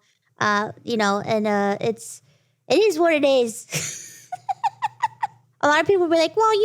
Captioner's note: laughs